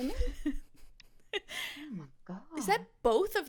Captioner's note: laughs